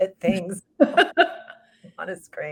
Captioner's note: both laughs